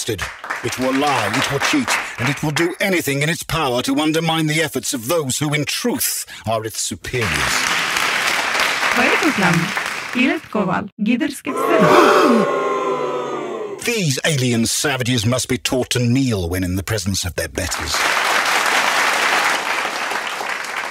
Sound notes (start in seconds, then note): 7.2 audience applause; 11.5 audience gasp, boo; 17.6 audience applause